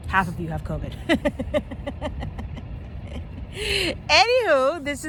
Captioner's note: laughter